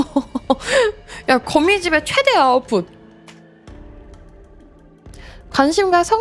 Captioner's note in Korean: 웃음